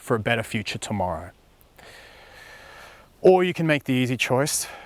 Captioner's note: deep breath